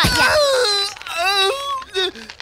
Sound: screaming

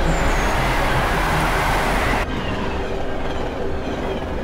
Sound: sound of fast train

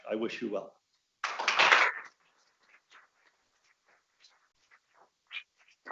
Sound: audience applauding

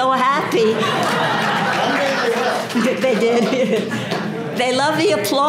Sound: laugh

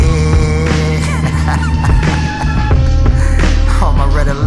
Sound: laughs

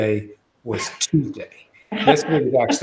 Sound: laughter

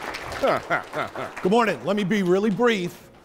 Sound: applause; laughing

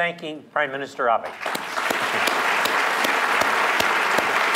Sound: applause

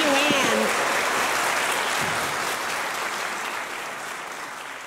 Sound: audience clapping

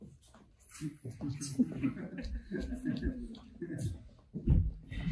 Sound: audience laughing

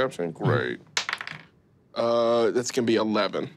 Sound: dice clatters

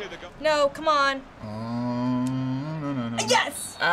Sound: humming

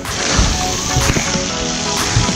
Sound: splashing water; happy music

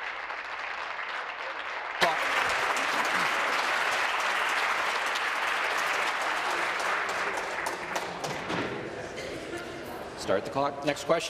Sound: applause

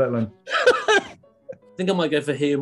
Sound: laughing

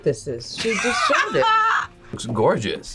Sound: laughs

